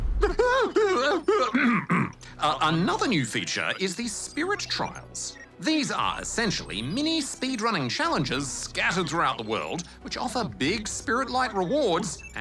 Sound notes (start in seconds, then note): 0.2 clears throat; 0.3 whimpers